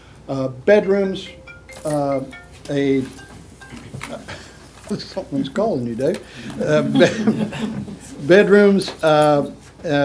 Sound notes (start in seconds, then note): 0.8 phone Ringing